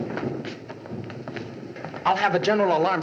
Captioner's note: thunder Rumbling